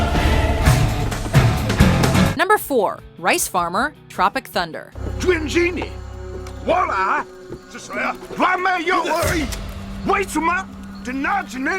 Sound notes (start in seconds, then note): 5.4 speaking vietnamese